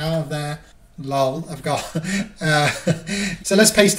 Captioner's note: laughing